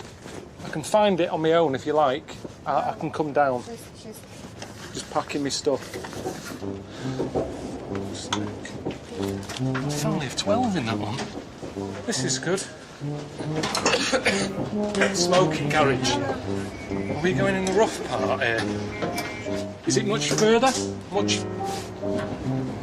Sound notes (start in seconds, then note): 13.6 coughs